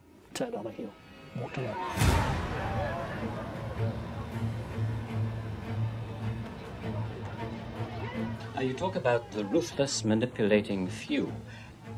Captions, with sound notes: Turned on her heel, walked away. (tense music) (protesters yelling) - Now you talk about the ruthless manipulating few.